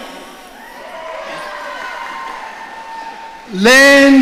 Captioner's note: audience cheering